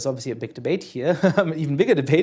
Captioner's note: laughter